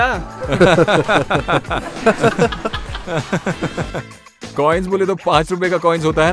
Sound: laughter

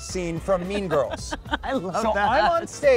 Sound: laughing

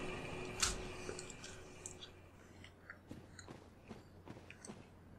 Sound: chewing noises

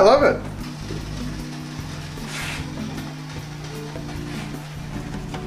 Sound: jars softly rattling

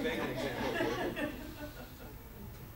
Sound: audience laughs

